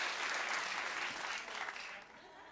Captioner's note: applause